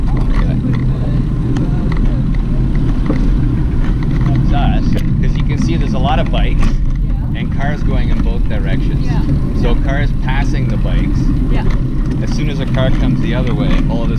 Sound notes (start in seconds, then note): 0.6 wind whirring